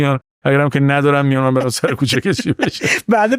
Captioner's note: laughs